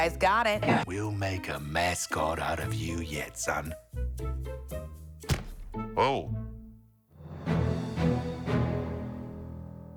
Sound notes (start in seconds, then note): 3.2 Chaos thuds; 3.2 playful music; 7.2 triumphant music